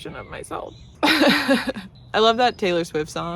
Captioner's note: laughs